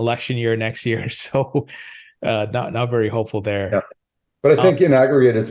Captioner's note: chuckles